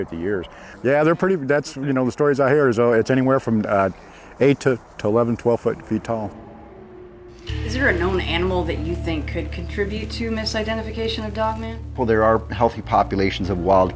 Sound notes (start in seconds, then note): 5.7 haunting music; 6.2 animal howling